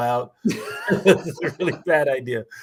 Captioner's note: laughter